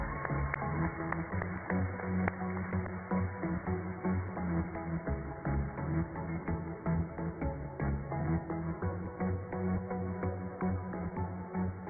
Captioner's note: cheers and applause